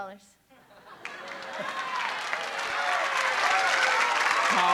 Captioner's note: cheering